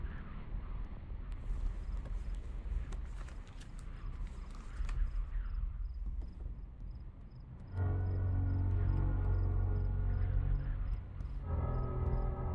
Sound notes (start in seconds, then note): 3.8 gloves snapping; 7.6 ominous music crescendos